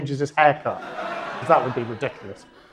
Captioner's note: audience laughs